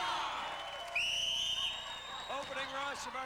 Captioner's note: cheers; whistle blows